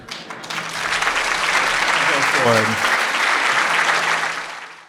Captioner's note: audience applauding